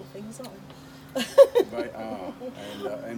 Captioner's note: laughing